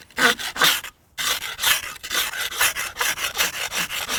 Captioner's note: ice scraper scraping